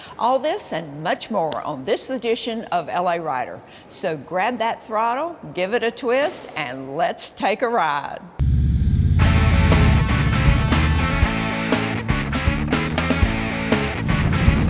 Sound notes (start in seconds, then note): 8.4 motors rumbling; 9.2 upbeat rock music